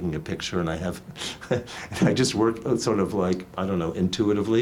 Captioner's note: laughs